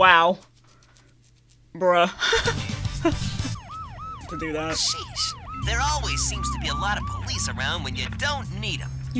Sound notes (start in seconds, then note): 2.2 light laughter